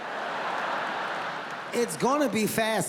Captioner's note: audience laughs